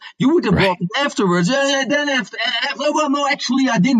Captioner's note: stammers